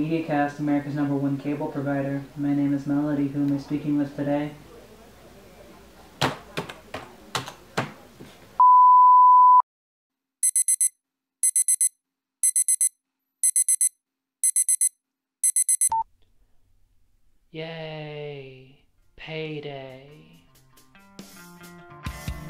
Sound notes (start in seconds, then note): 7.3 half-hearted keyboard clacking; 10.4 beeeeep; 12.0 phone alarm rings